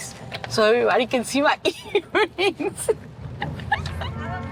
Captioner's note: laughs